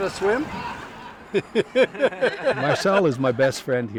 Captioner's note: laughs